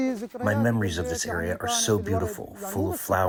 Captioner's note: through translator